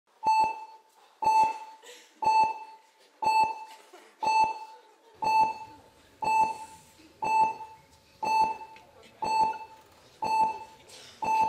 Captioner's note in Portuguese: bipes de monitor cardíaco